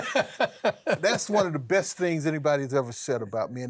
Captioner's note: laughs